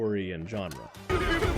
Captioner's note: PEW PEW PEW sounds